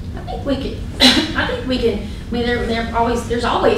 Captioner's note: coughing